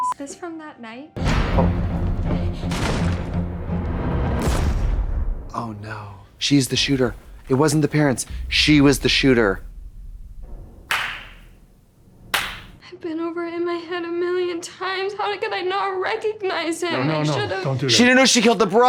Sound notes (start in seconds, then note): 1.2 suspenseful music; 4.3 gunshot fires; 10.0 Katya claps